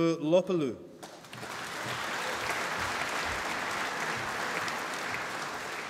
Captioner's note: applause